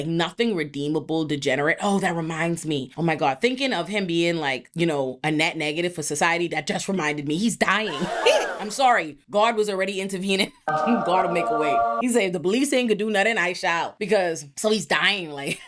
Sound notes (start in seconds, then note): 7.9 audience gasps